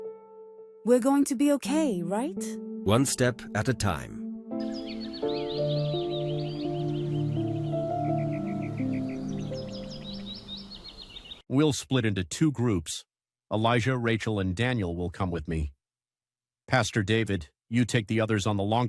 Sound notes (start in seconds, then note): 4.5 birds chirping; 4.9 somber music